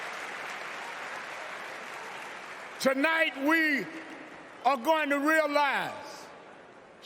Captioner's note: cheers and applause